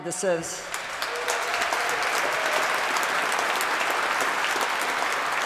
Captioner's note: applause